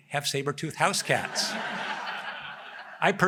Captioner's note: laughter